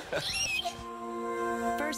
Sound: laughs

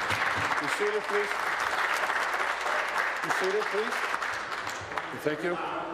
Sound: applause

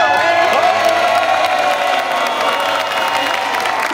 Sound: cheering

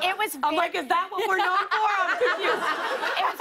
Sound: laughter

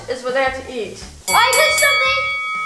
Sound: fighting bell rings

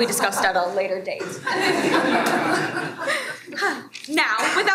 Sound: everyone laughs

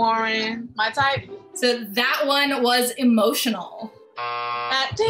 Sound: buzzer

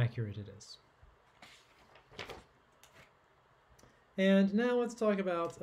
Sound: paper rustling

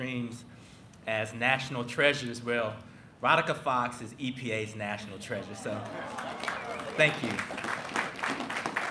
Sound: applause

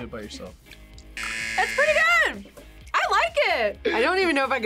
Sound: buzzer

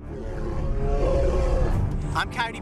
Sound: growling

